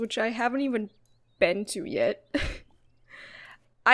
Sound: laughs

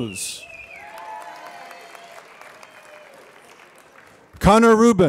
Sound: applause

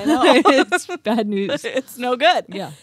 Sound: laughing

